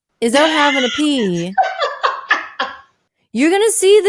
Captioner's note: laughing